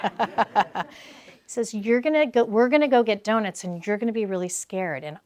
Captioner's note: laugh